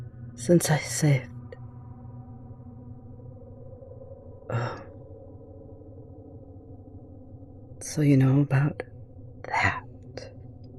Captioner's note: sharp inhale